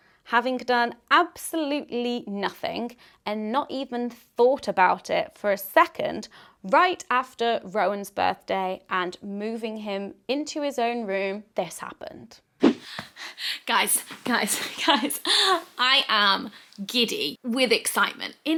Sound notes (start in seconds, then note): 12.7 transition swishes; 14.1 pants